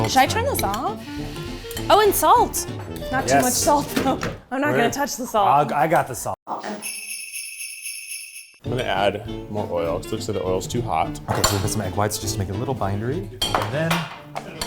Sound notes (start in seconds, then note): 6.7 jingle bells ringing; 14.4 whispers